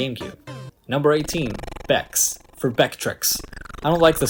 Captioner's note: bad CGR impression